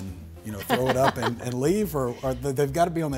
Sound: laughs

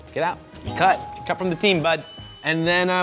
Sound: bell dings

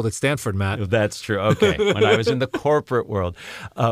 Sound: laugh

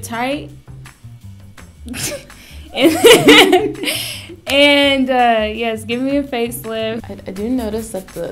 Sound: laughs

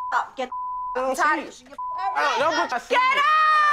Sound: beep

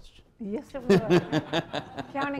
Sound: laughter

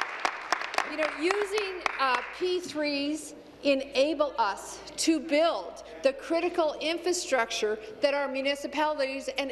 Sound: applause

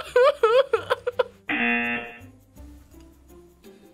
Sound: whimpers; buzzer rings

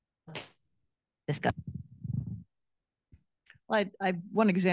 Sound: speaking faintly

